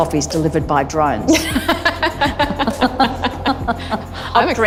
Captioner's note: laughs